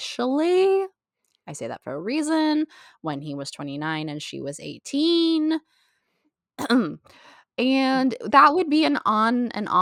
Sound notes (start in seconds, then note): 6.6 intentional cough